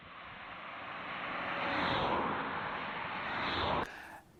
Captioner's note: car zooming